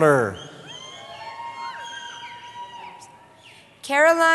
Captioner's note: cheering